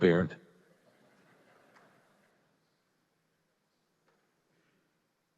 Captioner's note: audience laughing